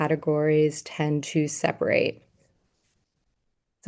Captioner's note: none